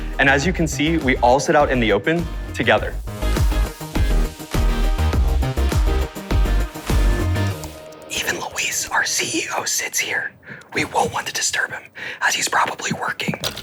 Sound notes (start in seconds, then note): 3.3 lively music continues; 8.1 whispering